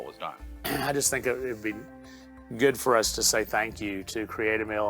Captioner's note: clears throat